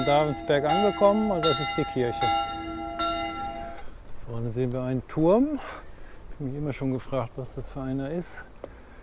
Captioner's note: bells ring